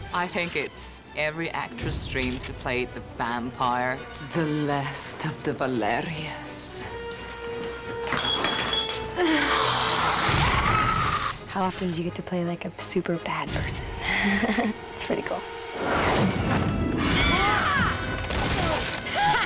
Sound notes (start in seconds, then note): 9.1 exhales; 14.0 giggles; 19.0 laughing